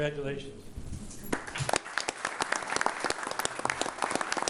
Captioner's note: all applauding